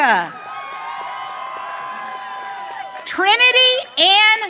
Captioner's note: audience cheering